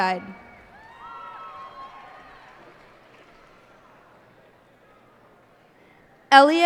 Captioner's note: cheers and applause